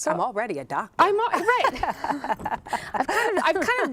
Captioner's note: laughter